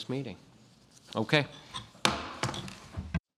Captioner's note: gavel bangs